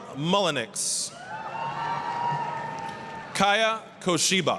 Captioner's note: applause, cheering